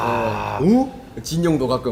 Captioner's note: wooooow